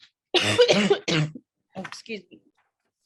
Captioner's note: woman coughing